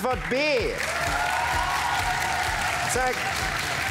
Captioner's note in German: Jubel und Applaus